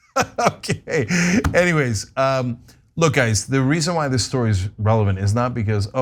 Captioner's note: laugh